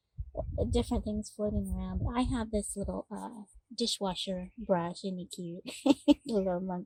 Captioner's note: laughter